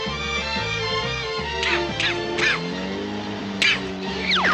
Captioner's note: bird coughs